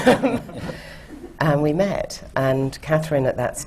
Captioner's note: laughter